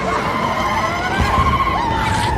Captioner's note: all trilling